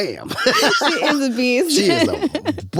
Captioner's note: laughs